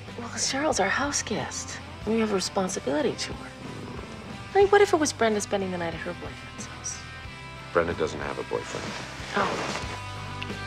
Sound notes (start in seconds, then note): 3.8 groans; 10.5 lips smacking; 10.5 rock music continues